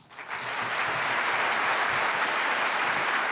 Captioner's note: applause